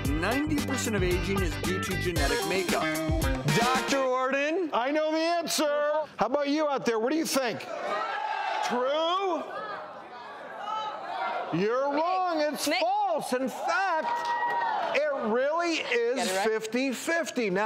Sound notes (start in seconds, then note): 7.8 crowd yelling; 10.4 crowd yelling